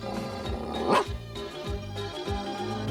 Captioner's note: ruff